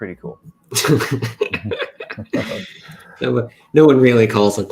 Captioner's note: laughs